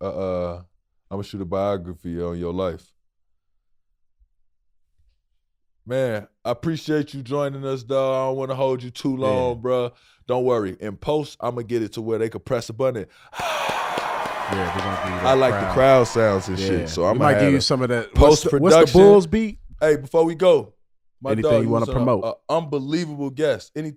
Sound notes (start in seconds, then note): 13.3 applauding crowd; 17.7 Rel laughing